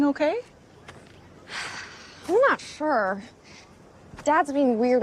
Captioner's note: sighs